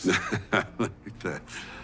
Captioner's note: Dwight laughs